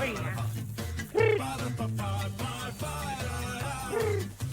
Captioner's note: animal calls